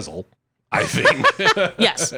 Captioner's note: laughs